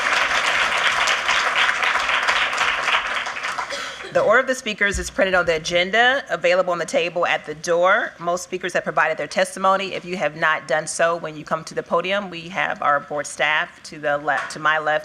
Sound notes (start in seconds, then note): 2.1 applause